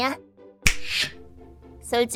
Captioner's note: finger snap